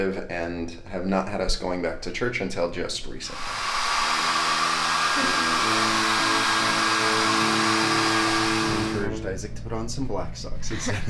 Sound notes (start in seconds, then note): 3.3 hairdryer blows